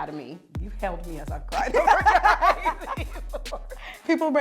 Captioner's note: laughing